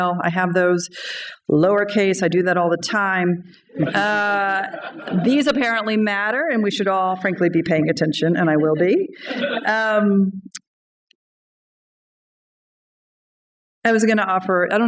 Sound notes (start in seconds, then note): 3.7 laughter